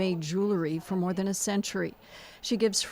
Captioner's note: speaking Foreign Language